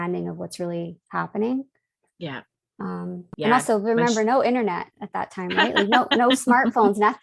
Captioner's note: laughs